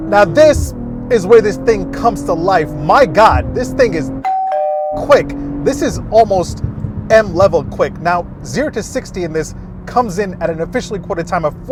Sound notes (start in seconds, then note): 4.2 doorbell chimes